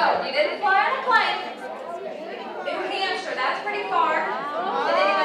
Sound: laughing

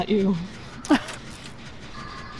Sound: scoffs

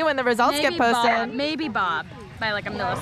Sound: dogs barking

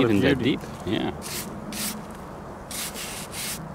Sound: brush scraping

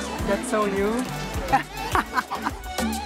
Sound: laughs

